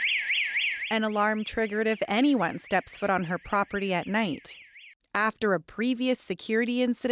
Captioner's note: alarm